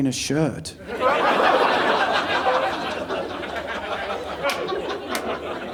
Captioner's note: audience laughing